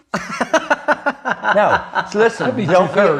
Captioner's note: laughs